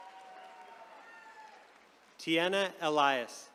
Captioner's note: attendees cheering